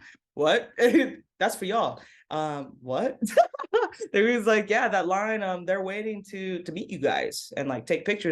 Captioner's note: laughs